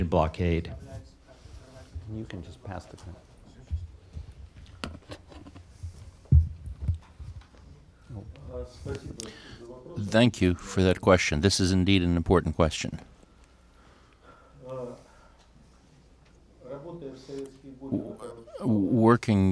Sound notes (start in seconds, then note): 4.5 through translator